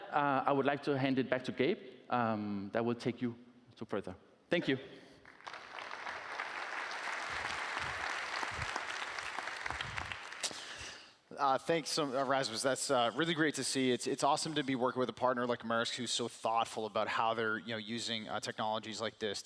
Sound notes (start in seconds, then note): 8.1 applause